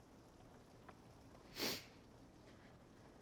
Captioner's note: sniffles